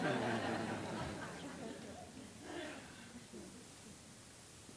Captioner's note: laughter